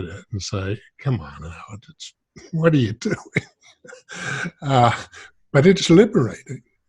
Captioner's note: chuckles